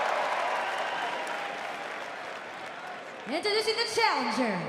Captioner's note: crowd cheering